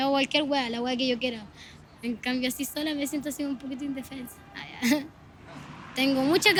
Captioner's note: laughs